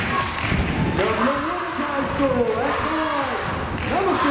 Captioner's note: speaking faintly